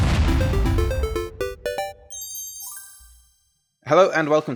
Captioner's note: video game sounds